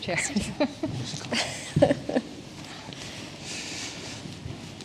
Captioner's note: everyone giggles